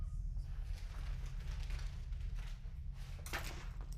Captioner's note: bag rustling